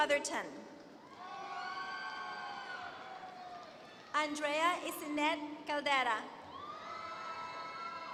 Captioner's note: applause